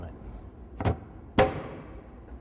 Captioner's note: bang, bang